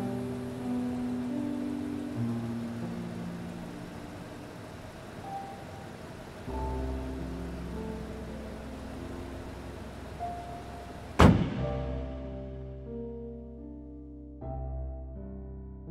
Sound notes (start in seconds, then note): 11.1 door slams; 12.6 dramatic piano music